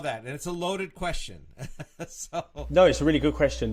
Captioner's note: laughs